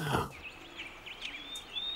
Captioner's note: birds chirping